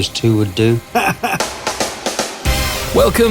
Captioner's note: laughter; upbeat music